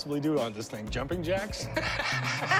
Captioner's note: laughter